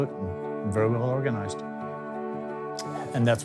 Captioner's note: clicks tongue